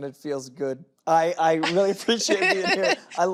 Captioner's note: laughs